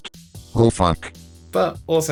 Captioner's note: robotic Voice